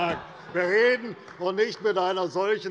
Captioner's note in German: Zurufe von der SPD und der LINKEN